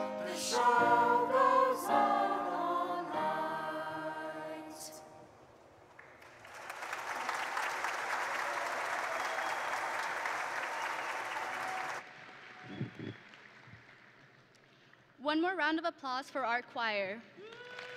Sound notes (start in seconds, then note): 5.9 audience and graduates applauding; 9.1 audience and graduates cheering